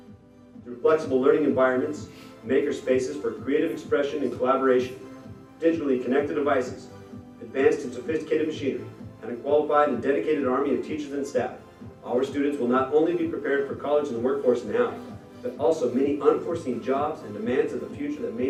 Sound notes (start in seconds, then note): none